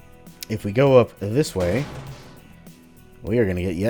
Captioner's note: vent grate smashy